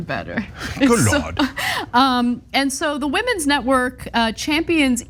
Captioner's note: laugh